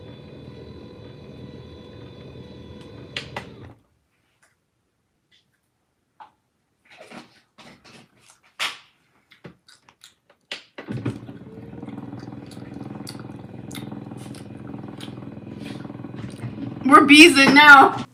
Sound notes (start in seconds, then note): 10.8 desk whirring